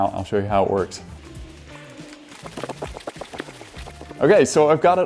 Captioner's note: air pumping